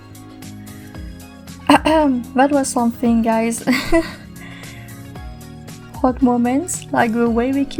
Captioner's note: ahem